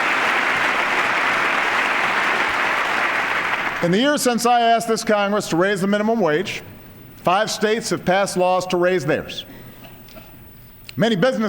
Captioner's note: applause